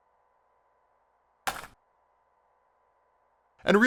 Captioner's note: tape being picked up